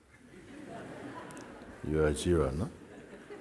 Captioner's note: laughter